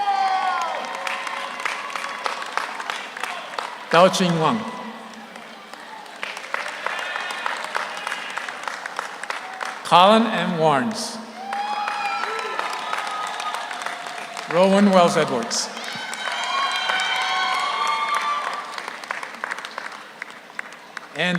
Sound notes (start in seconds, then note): 0.1 audience applauds; 0.1 audience cheers; 6.7 audience applauds; 6.7 audience cheers; 12.1 audience applauds; 12.1 audience cheers; 16.5 audience applauds; 16.5 audience cheers